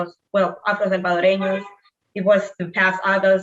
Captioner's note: speaking in foreign language